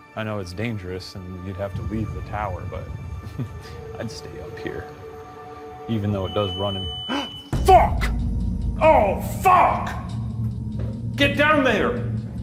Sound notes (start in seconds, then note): 6.2 boo-subi beeps; 7.0 gasps